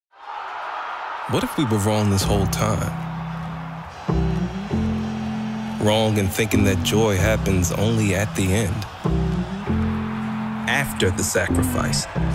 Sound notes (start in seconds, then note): 0.0 audience Cheers